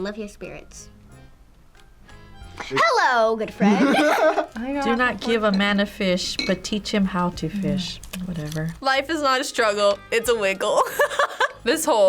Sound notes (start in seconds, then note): 3.6 both laugh; 10.8 laughs